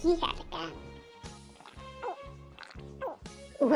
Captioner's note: glug glug glug